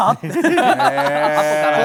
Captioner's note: laughter